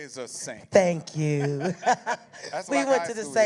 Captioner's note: laughter